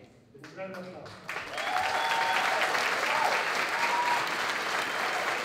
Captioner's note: applause